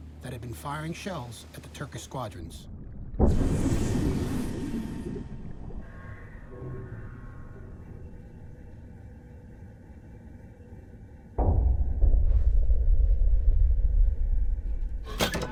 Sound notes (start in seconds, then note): 2.7 torpedo firing; 11.4 distant explosion booming